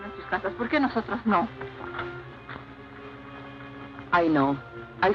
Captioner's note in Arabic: امرأة تتحدث الإسبانية